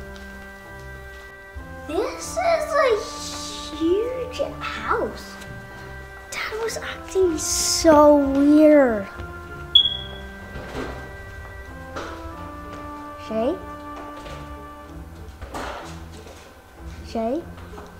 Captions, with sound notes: This is a huge house! Dad was acting so weird. (beeping) Shae? Shae?